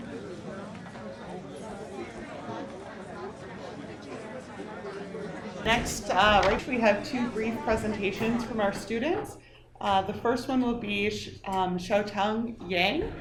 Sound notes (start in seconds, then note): 1.0 people chattering; 6.1 people chattering; 13.0 chair scraping